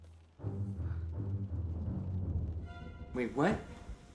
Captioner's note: ominous orchestral music; thunder rumbling